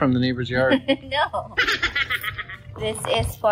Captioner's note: chipmunk laughing; chuckles